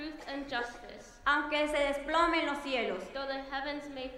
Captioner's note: speaking in foreign language